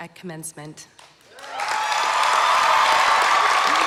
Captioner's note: applause